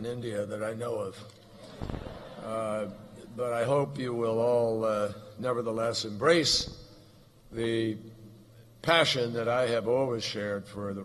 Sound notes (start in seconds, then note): 1.5 laughter